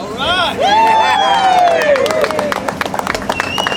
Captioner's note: crowd cheering